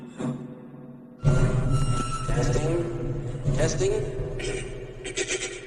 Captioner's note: mic feedback